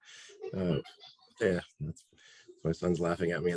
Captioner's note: boy laughs